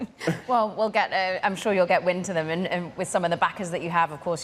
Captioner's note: laughter